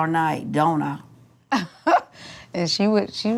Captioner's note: chuckles